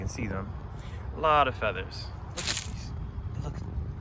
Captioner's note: leaves crunching